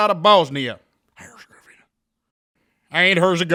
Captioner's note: whispering